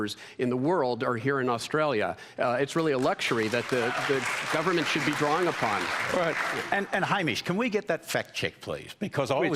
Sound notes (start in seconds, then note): 3.0 cheering and applause